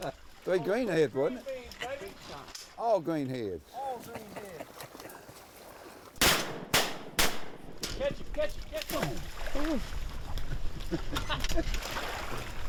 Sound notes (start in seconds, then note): 6.2 gunfire